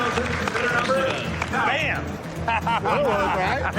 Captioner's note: laughs